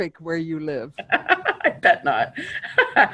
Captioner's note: chuckles